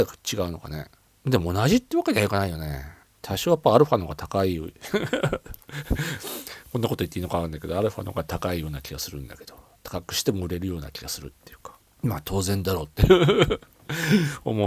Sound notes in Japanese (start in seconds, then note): 4.8 笑い; 13.8 笑い